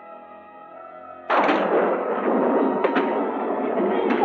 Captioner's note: thunder crashing